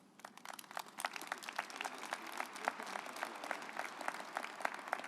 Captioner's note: audience applauding